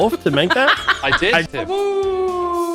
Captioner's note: laughs